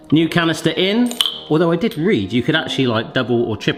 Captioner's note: canister clinks